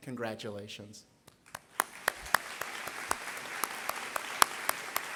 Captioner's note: applause